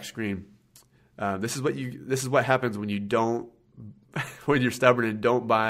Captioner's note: laughs